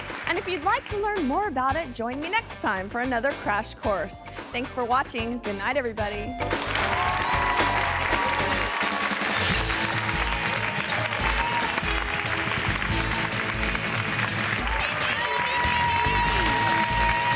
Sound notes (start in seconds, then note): 6.6 audience applauding and cheering; 8.6 quick music